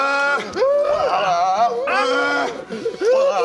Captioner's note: hrggggh; farm animal noises?; hrgglgelelelele